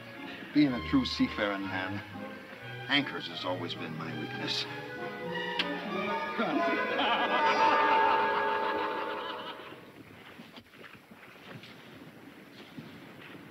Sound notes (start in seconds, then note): 5.4 lips smacking; 6.4 laughing